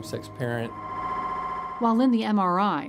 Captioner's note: MRI whirring